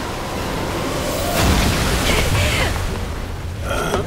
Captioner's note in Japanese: 衝撃音